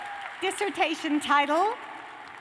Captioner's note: cheers and applause